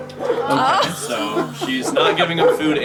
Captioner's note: laughter in background